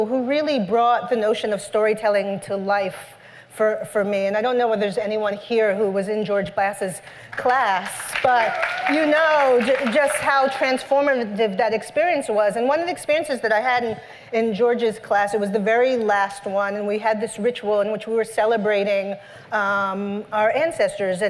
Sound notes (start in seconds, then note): 7.8 cheers and applause